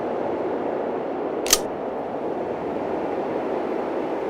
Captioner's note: gun clicks